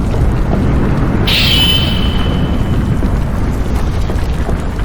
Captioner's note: wind whooshing